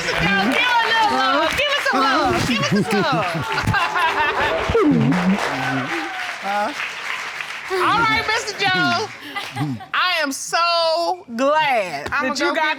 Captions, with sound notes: All right, Mr. Jones, give her a little love. Give her some love. Give her some love. (LAUGHING) All right, Mr. Jones. I am so glad